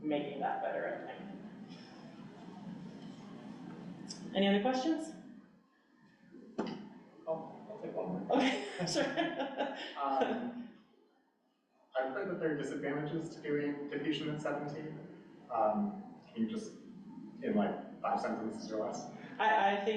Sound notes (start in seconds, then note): 7.4 laughing